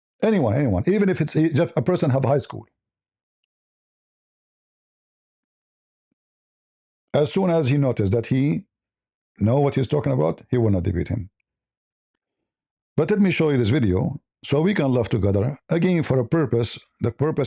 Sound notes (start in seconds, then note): none